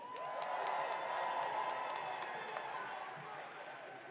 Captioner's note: audience cheering